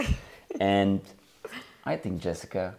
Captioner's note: laughing